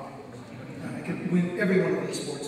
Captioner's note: audience laughs